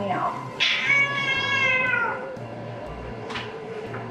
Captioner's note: cat meowing